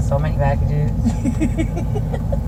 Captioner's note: laughs